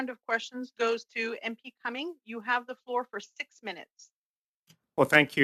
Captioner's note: speaking French